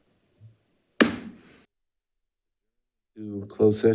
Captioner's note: gavel thuds